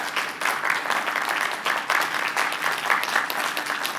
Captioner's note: applause